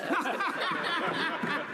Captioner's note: laughter